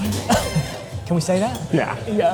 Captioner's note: laughs